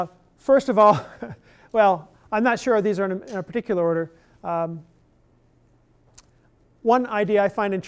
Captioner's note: chuckle